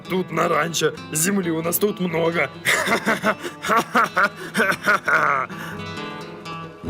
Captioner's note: good-natured laugh